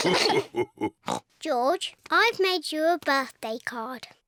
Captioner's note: all laugh; oinks